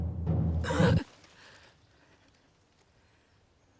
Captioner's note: Salina gasps